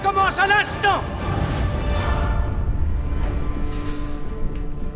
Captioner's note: spear whooshing; metal rattling